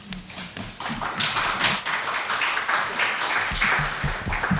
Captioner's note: applause